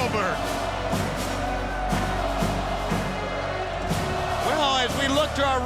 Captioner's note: crowd cheering continues; upbeat music continues